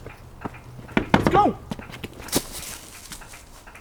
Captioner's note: knock